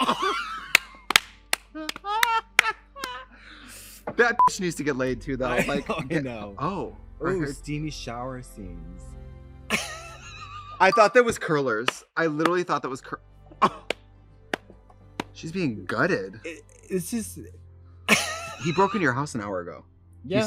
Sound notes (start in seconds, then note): 0.0 Trixie and Katya laugh and clap; 4.4 beep; 9.7 Katya laughs; 13.8 Katya claps; 18.1 laughs